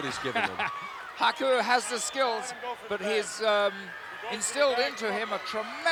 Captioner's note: laugh